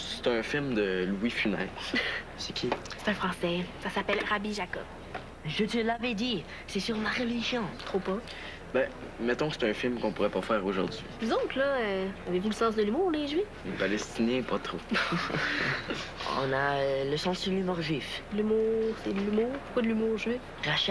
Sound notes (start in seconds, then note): 14.8 Rires